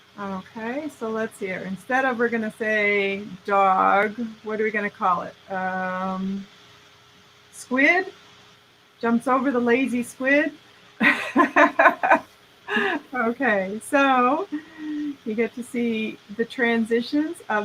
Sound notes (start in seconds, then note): 11.0 laughing